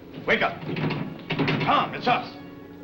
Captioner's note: clanking